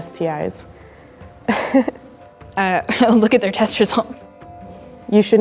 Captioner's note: laughs